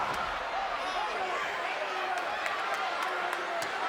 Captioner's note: crowd jeers